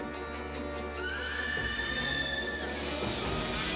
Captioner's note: shriek; creak